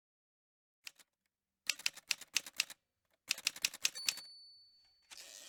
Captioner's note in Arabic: أصوات آلة كاتبة